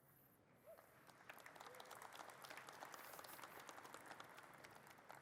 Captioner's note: audience claps